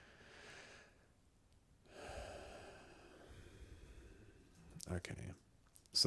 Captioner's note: sigh